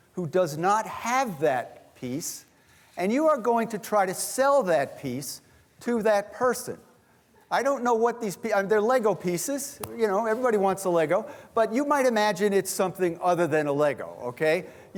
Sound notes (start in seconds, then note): none